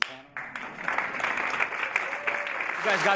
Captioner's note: audience applauding